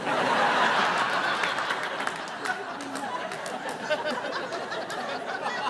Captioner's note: audience laughing